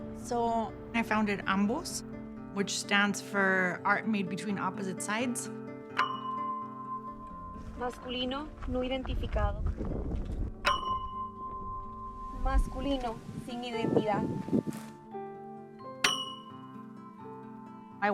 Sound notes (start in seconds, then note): 7.8 speaking spanish